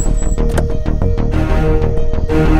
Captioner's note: Car door opens